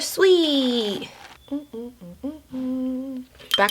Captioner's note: humming